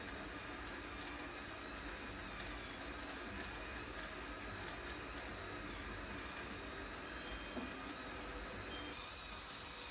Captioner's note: steaming